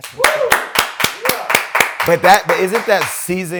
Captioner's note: applause